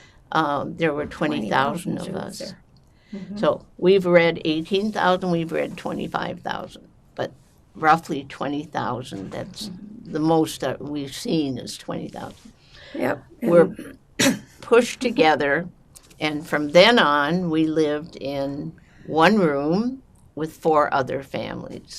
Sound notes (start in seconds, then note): 13.3 clears throat